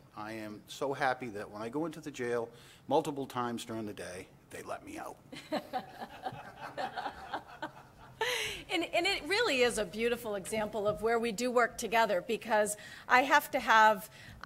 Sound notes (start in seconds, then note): 4.9 brief laughter